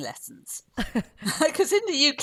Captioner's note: laughs